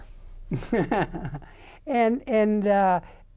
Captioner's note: laughs